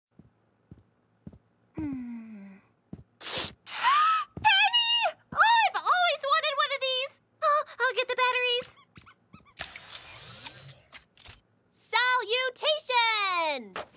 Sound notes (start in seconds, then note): 3.6 gasp; 9.6 powering On